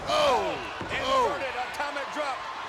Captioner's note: commentators exclaim